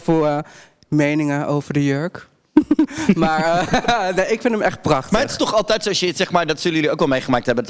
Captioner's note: the girls giggle